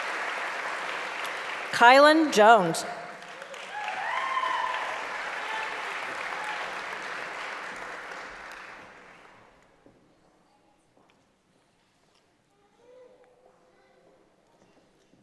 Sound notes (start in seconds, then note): 1.7 applause and cheering; 7.4 applause